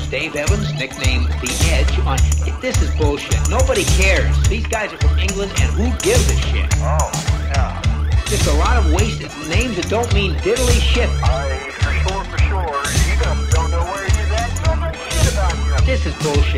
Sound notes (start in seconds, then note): 0.0 distorted voice; 5.3 whistle